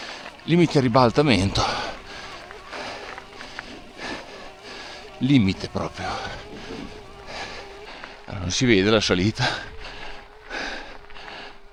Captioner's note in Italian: sbuffare